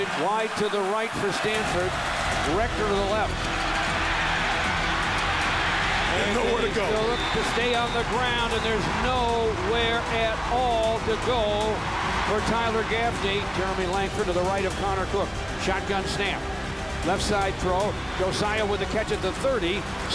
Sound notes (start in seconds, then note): 3.6 crowd cheers